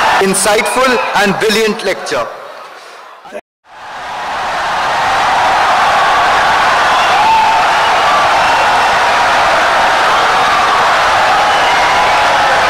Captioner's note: wild applause and cheering for 17 seconds